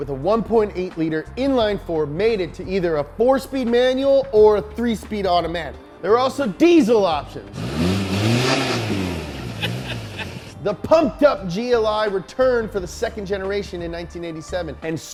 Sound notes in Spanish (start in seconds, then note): 7.4 revoluciones del motor; 7.5 risas